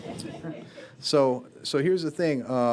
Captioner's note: students laughing